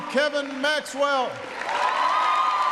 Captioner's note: applause